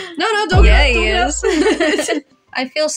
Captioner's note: both Laugh